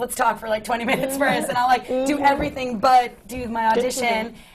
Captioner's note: laughs